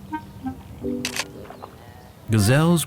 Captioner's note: camera clicks